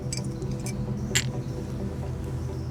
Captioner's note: clanging glasses